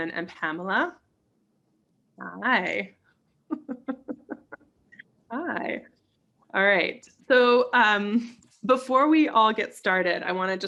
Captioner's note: giggles